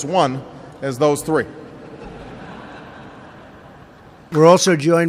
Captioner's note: laughter